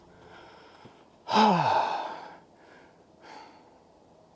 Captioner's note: sighs contentedly